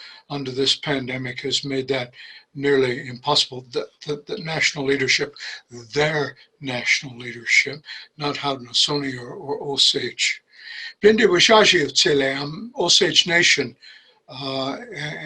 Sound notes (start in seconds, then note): 11.0 speaking in Osage